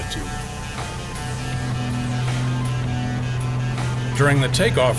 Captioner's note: plane engine roaring